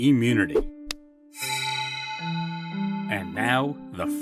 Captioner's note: shing